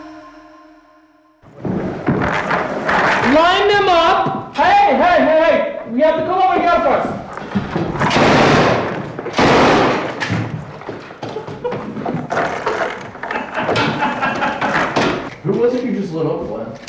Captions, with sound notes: Line them up! Hey, hey, hey, we have to come over here first! (gun fires) Who was it you just lit up?